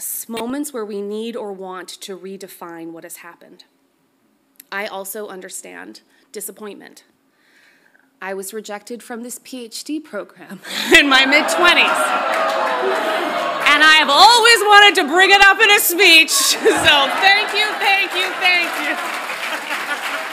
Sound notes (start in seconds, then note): 10.9 audience groans; 19.3 audience applauds loudly; 19.4 laughs